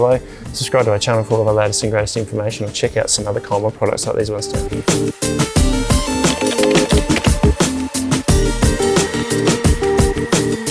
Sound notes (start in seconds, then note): 6.1 upbeat music; 6.2 keyboard clicking; 7.8 upbeat music